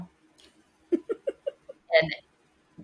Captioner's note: laughs